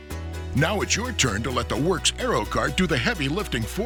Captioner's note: voiceover